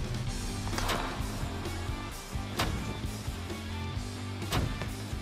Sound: blade impacts

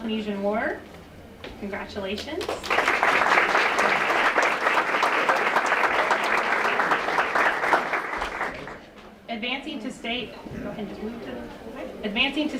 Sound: applause

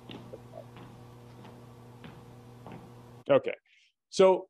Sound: footsteps tapping

